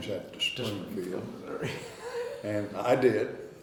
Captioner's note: laughing